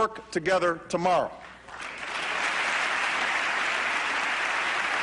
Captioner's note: applause